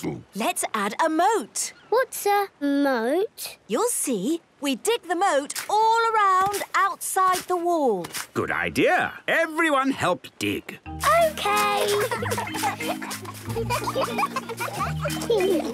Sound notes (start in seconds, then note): 11.4 giggling